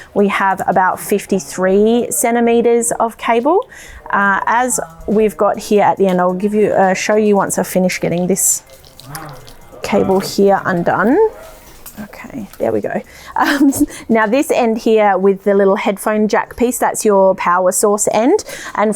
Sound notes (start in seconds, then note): 8.6 lights jiggle; 13.4 laughs